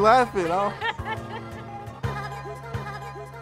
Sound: laughs

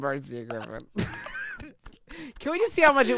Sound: laughter

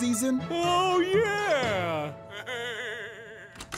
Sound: chuckling

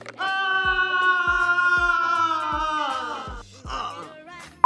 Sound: screaming; grunting

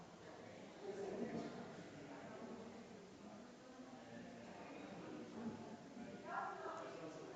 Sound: people chattering distantly continues

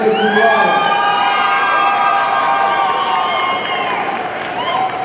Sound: audience cheering

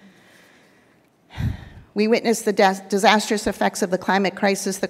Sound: sighs

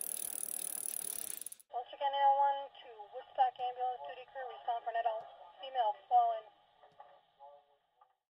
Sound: generic emergency scanner recording, sound effect

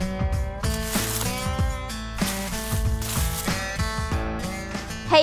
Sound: leaves rustling

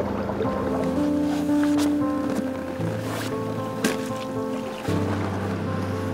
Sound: sorrowful music; water gurgling

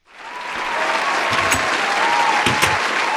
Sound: applause

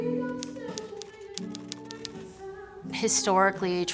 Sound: typewriter taps

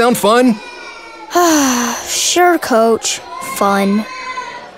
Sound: sigh

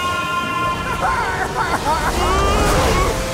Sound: screaming; laughs; screams

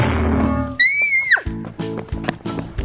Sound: scream

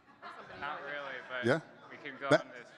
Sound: audience chuckling

